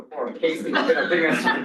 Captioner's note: laughter